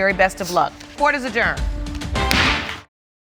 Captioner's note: strikes mallet